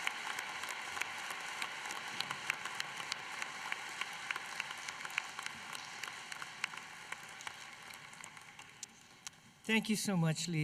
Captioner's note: applause